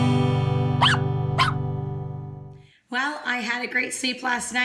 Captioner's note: guitar strums; dog barks